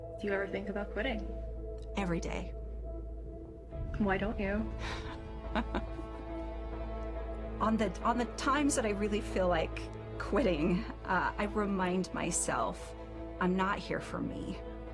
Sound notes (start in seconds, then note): 4.8 laughs; 5.0 tense music